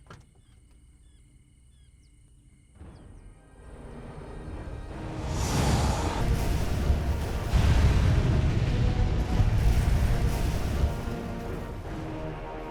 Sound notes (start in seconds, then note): 7.4 explosion